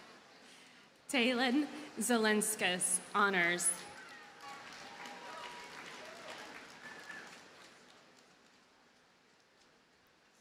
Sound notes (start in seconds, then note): 3.8 audience cheers and applauds